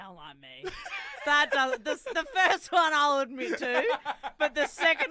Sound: laughs

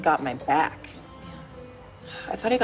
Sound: sighs

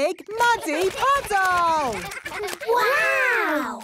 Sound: splashing

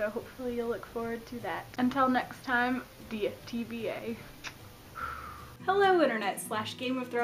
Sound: blows kiss

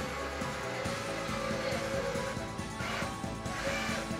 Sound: robot whirring

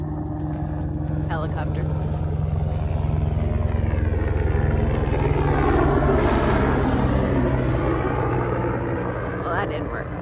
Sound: helicopter overhead

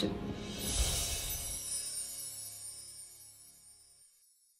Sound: sparkling chimes

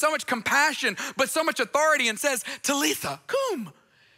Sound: speaks in foreign language

